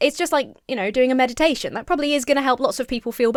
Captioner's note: none